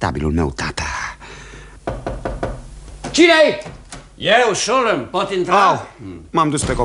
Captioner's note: knocking on the door